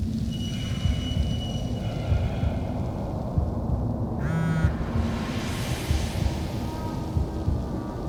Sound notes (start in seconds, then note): 1.6 train screeching